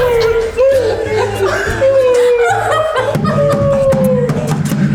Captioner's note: indistinct whimpering; all laughing